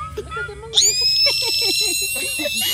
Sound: screaming; laughing

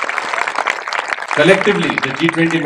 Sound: applause

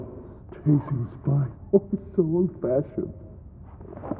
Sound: laughs

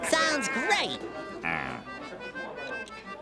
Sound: Squidward groans

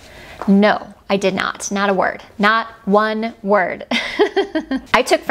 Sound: laughs

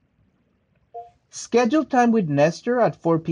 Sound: phone beeps

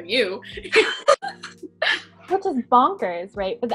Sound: all laughing

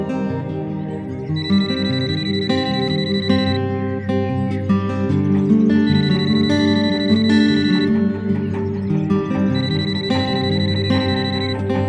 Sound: phone rings

